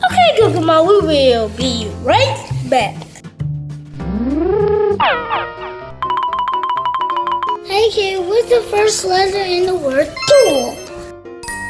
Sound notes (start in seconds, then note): 4.3 futuristic zapping; 4.9 alternating high-pitched piano keys